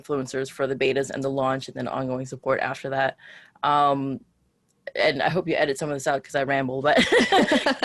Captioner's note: laughs